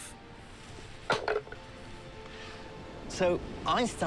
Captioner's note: can clatters